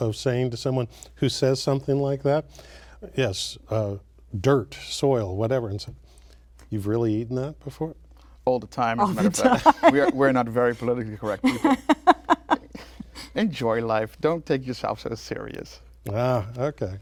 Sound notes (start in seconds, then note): 9.1 laughter; 11.2 laughs